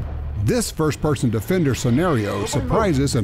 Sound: voiceover

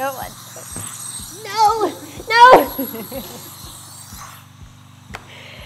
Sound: laughing

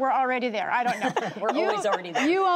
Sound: laughter

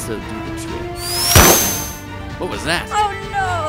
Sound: sonic whirring; gunshot firing

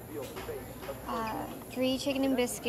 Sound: none

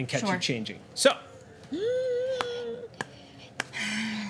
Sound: tense noises

